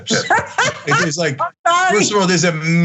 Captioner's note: laugh